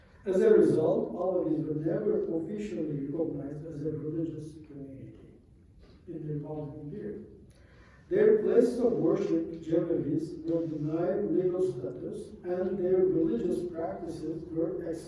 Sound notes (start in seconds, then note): 9.6 non-english